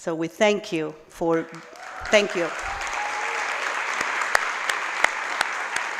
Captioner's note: applause